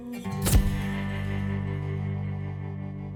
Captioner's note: camera flash